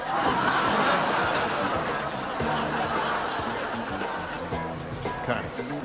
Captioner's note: laughter